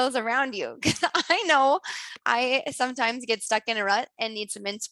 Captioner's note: laughs